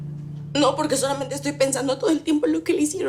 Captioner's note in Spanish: Sollozos